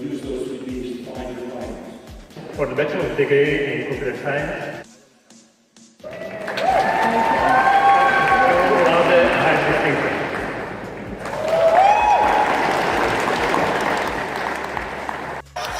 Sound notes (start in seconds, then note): 10.9 clapping